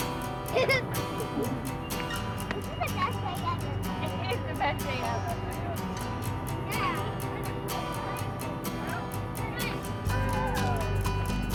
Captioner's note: laughter